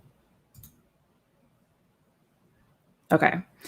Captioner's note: computer mouse clicking